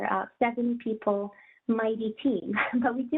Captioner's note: chuckles